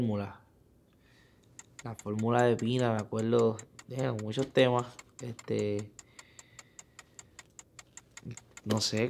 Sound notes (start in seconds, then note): 1.4 timer ticking; 2.4 speaking in foreign language